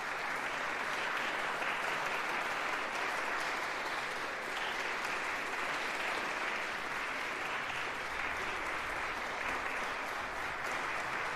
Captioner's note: applause